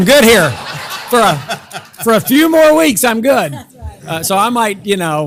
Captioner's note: laugh